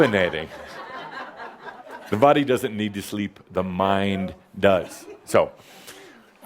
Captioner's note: laughter